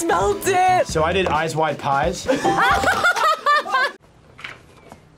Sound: laughs

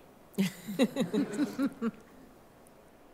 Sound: laughter

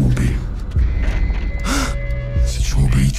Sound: crie de peur

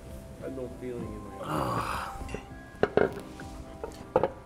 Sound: man grunts

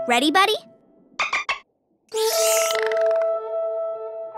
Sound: dolphin clicks

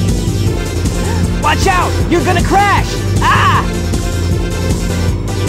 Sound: gasps; yells

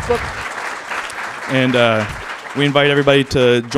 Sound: applause

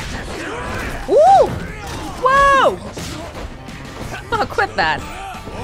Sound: chuckles

